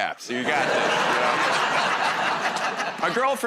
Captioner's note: laughter